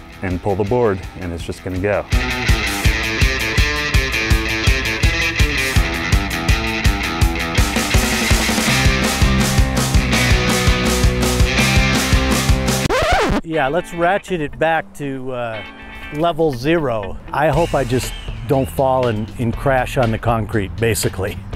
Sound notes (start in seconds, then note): 2.2 surf rock guitar and percussion music; 12.7 record player needle scratching; 21.3 groovy guitar music